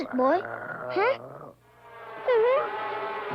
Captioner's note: Arrow whines; ominous music